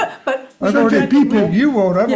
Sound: laughs

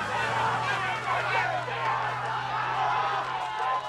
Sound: shouting

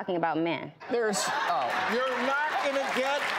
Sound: audience laughs

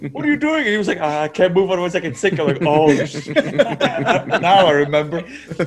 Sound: laugh

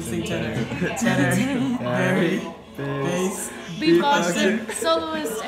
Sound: laughter

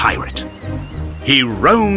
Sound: seagulls

